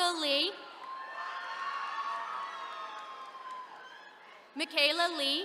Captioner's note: attendees cheering